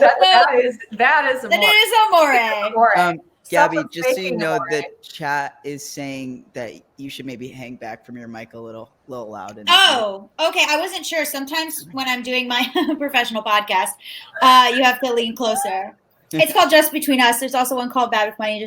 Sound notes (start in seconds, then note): 14.2 laughing